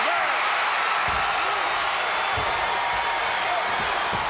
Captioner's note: audience cheering